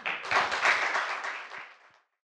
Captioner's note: audience applauds